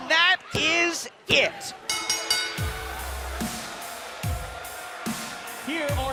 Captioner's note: bell ringing